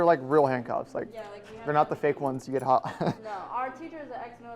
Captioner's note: chuckles